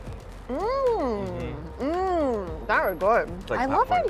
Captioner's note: delighted groaning